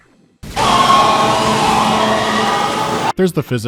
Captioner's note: multitudinous Marv scream